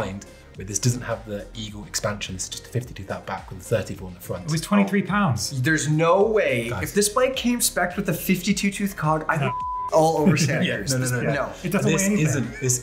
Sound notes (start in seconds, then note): 9.4 beep